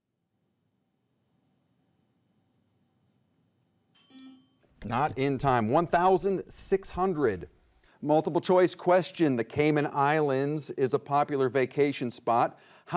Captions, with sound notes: (buzzer beeps) (timer dings) Not in time. 1,600. Multiple choice question. The Cayman Islands is a popular vacation spot.